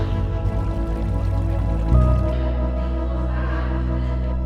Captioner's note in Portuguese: água corrente; trilha sonora esperançosa; vozes ao fundo